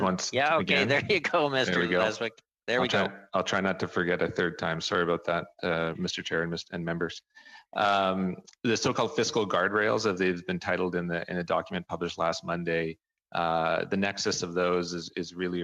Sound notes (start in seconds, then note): 1.0 speaking French